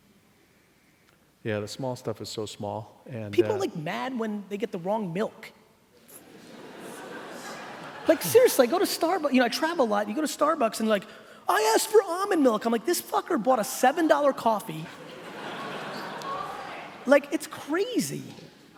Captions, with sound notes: - Yeah the small stuff is so small and, - People like mad when they get the wrong milk. (laughing) Like seriously, I travel a lot, you go to Starbucks and like, I asked for almond milk. I'm like this fucker bought a seven dollar coffee, it's crazy.